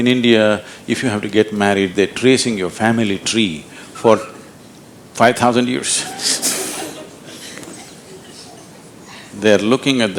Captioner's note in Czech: Smích